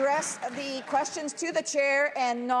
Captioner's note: some Applause